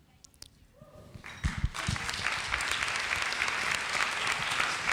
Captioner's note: audience applauds